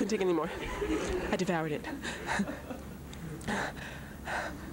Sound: panting

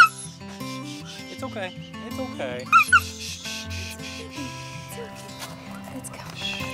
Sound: squealing

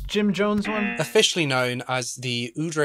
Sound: buzzer

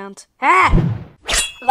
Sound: shing

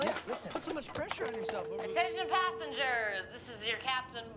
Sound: chimes

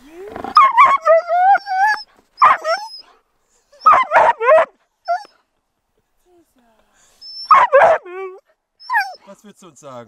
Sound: Caesar is howling and barking

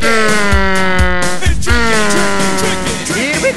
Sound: airplane sounds

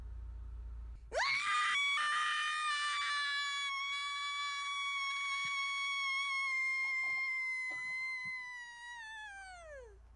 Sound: shrill loud scream!

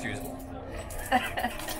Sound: laughs

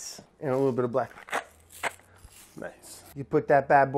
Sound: pepper grinding

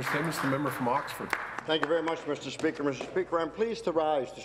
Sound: applause

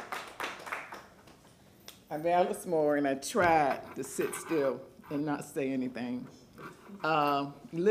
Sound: applause

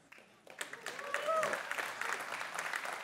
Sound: applause

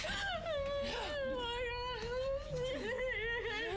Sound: crying

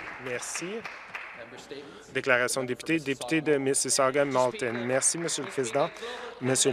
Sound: some Applause

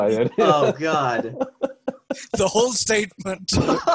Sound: laughing

